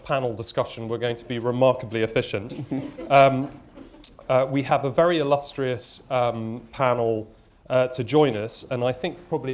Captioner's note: laughter